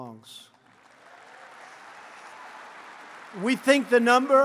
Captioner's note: applause